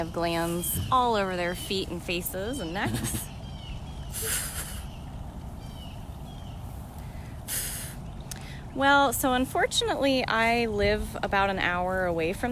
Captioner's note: chuff